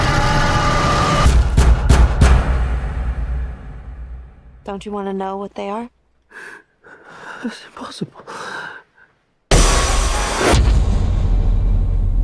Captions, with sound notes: [banging] - Don't you wanna know what they are? [breathing heavily] - That's impossible.